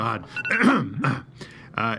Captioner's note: clears throat